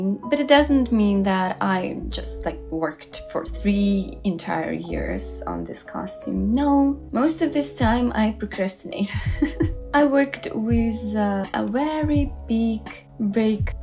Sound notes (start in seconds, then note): 9.1 laugh with regret